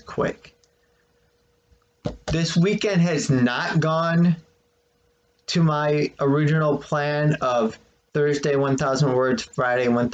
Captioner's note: clank of phone against desk